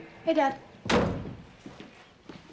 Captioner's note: door shuts